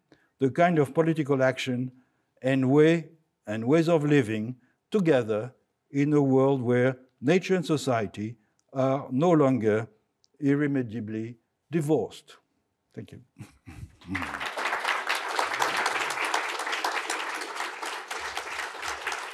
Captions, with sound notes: the kind of political action and way and ways of living together in a world where nature and society are no longer irremediably divorced. Thank you. (audience applauding)